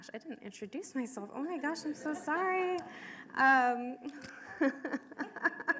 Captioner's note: laughing; audience laughing